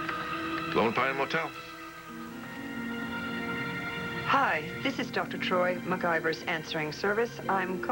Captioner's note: phone rings